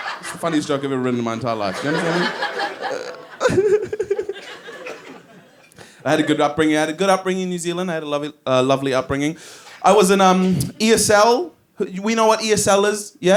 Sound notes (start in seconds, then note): 3.1 giggles